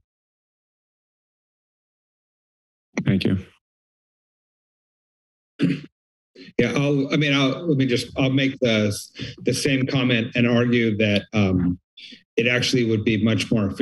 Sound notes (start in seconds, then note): 5.6 clears throat